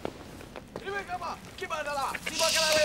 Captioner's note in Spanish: discurso en otro idioma